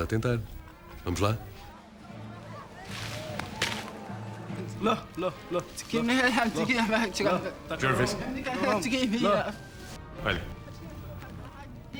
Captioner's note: pseudo-Arabic gibberish